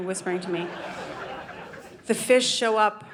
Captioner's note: audience laughing